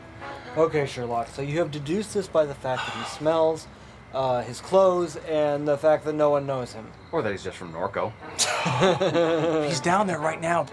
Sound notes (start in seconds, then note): 0.0 quirky music; 8.3 cops laugh